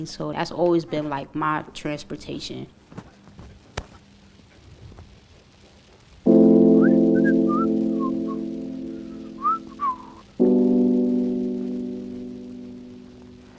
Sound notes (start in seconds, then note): 7.3 whistling